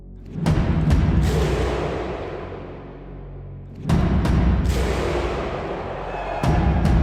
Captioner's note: drums rolling; people chanting